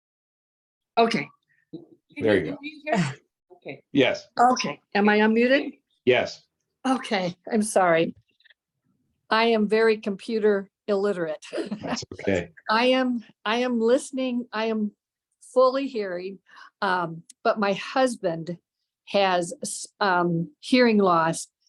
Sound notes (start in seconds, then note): 11.6 laughter